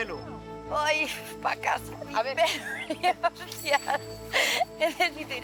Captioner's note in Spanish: ríe